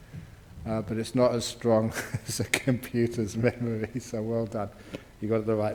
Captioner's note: laughs